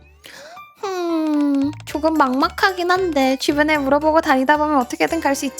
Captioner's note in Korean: 하품